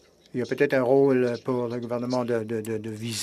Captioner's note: speaking French